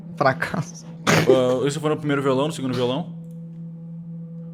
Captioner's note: laughs